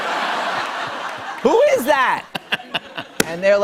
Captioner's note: chuckles